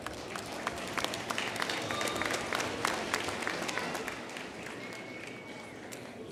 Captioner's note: applause